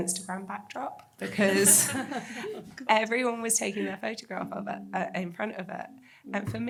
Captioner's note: laughs